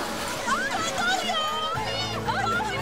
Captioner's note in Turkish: Bağrışma sesleri